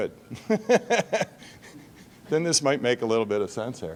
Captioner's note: laughing